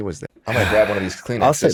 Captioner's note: sighs